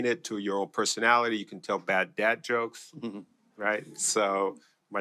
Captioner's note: laughter